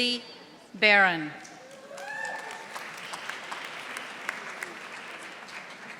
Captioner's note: audience applauding